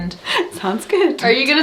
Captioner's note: laughs